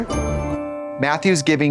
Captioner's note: bright chime